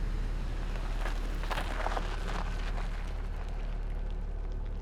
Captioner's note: vehicle engine whirring